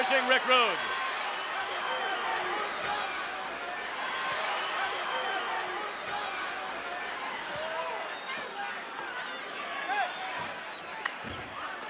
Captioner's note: applause